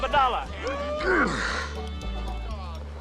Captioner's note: Eli grunts; lively music drops